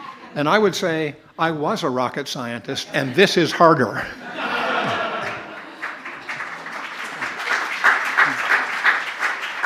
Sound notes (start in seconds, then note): 4.6 laughter; 5.2 applause